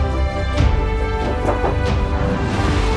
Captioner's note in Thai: เสียงเคาะประตู